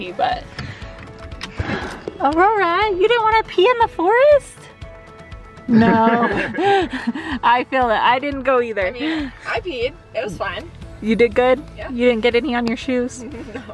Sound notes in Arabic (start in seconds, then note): 5.7 الكل يضحك